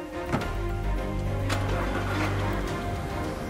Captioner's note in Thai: เสียงสตาร์ทรถยนต์; เสียงเปิดประตู